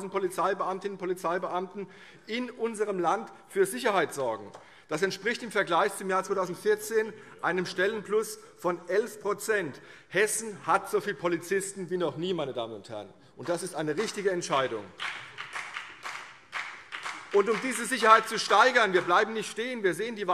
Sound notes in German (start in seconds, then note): 13.9 Beifall CDU und BÜNDNIS 90/DIE GRÜNEN